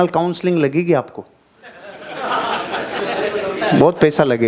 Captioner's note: laughing